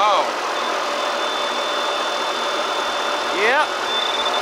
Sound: pointer pings

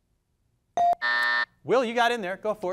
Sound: device dings

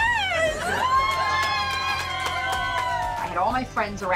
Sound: crowd cheering

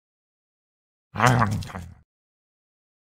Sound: sound of eating

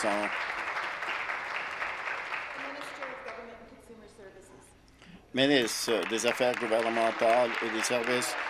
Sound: applause

